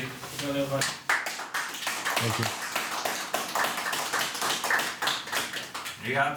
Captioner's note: applause